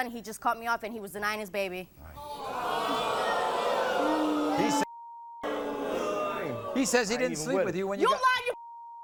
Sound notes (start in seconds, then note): 2.1 beep; 2.2 audience boos; 8.8 beep